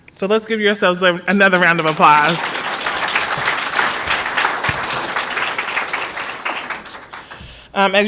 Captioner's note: applause